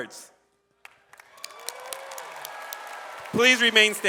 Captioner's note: audience applauds